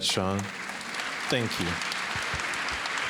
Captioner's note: applause